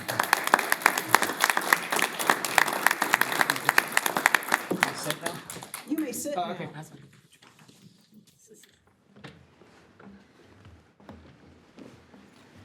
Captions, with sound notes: - Welcome. (board members applauding) - We can sit now? - You may sit now. - Oh, okay. That's fine.